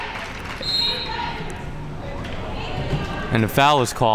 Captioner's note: whistle blows